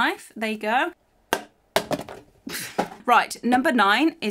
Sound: box falls to the ground

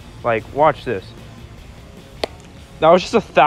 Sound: hand thumping on face

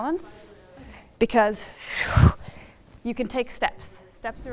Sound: exhaling

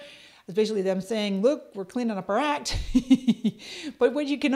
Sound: laughs

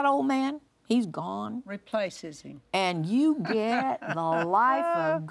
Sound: laughs

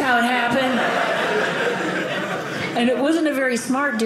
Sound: audience laughing

